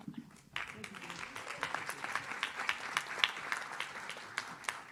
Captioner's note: audience claps